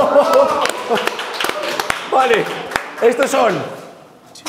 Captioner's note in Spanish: Aplausos